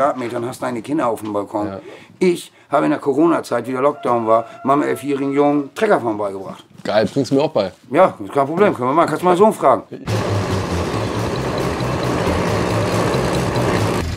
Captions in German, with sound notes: hast deine Kinder aufm Balkon. Ich hab in der Coronazeit, im Lockdown, meinem Elfjährigen Treckerfahren beigebracht. Bringst du mir das auch bei? - Können wir machen. (Motorengeräusch)